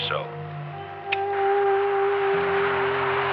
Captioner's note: switch clicks